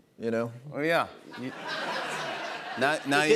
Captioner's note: laughter